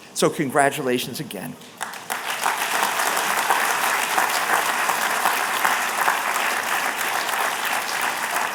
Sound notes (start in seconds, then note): 1.7 applause